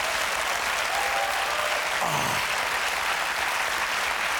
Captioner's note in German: Applaus